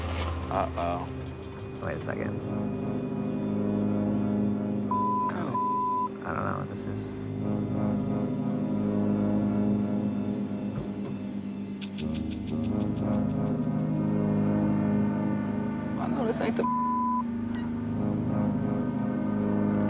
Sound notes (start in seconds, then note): 2.6 dramatic music; 4.8 beeping; 7.8 dramatic music; 16.5 beeping